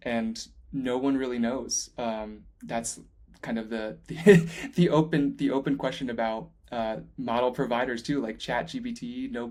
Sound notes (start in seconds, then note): 4.2 laughing